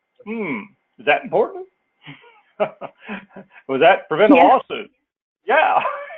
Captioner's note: laugh